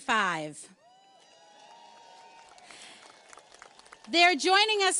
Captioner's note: audience cheers and applauds